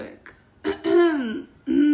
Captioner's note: clears throat